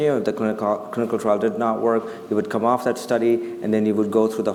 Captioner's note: none